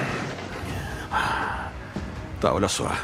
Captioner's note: Hartley sighs